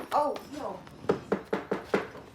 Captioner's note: knocking